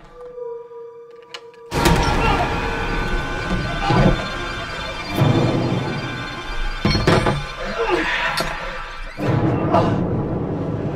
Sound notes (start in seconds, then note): 1.6 groans; 1.7 musical stinger; 1.7 smash!; 7.6 groaning